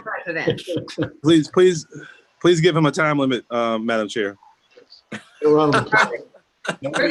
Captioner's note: laughs